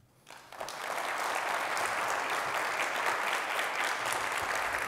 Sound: audience applauds

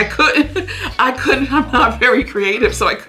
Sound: laughing

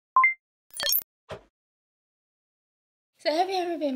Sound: computer sounds

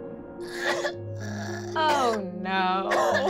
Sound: crying

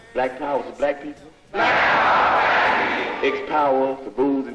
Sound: crowd

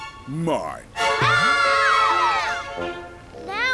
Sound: screaming

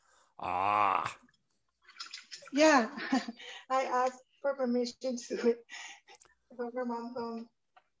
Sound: chuckles

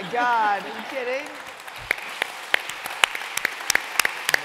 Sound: applause

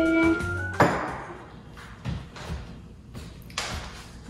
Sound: loud thud

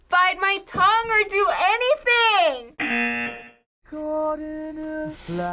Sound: buzzer rings

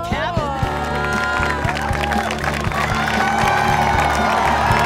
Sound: cheers and applause

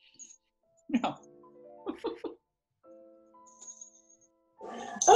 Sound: laughing

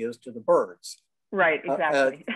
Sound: chuckling

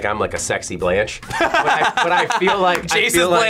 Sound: laughs

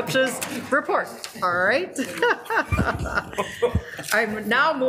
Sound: laughs

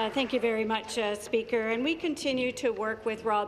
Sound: applause

